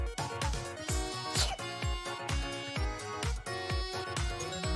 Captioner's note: sneezing sound